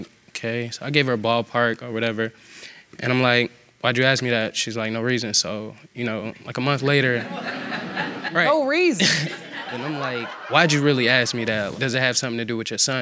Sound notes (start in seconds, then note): 5.2 audience laughing; 9.0 laughing